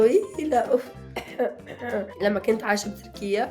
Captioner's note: clears throat